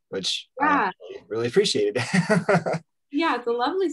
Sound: laughs

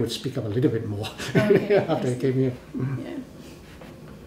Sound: laughs

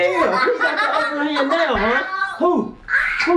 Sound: laughing

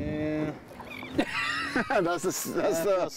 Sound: group laughing

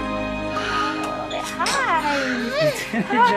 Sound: panting

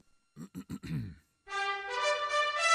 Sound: clears throat

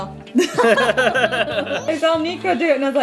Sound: parents laughing

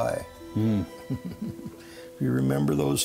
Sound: chuckles

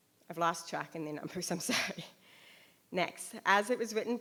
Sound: laughs

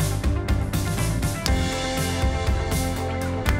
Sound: golf club wack

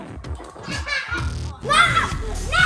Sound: laughs

